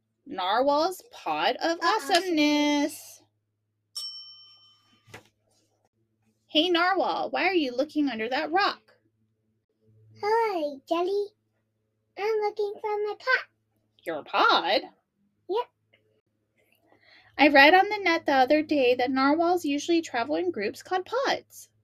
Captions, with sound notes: Narwhal's pod of awesomeness. (bell dings) Hey Narwhal! why are you looking under that rock? Ahoy, Jelly! I am looking for my pod. your pod? yup. I've read on the net the other day, that Narwhals usually travel in groups called pods.